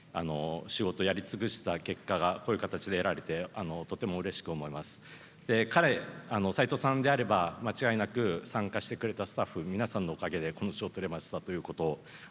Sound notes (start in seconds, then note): none